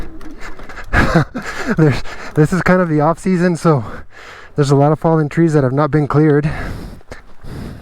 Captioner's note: guffaw